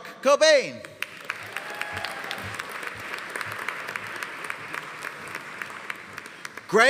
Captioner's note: audience applauding; audience cheering